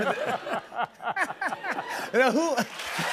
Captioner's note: laughter; cheers and applause